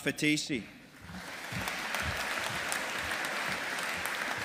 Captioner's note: audience applauding